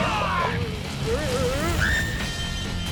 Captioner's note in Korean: 여자 비명